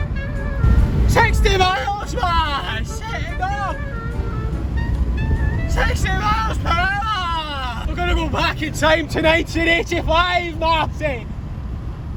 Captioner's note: shouting